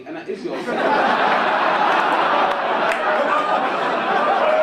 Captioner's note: audience laugh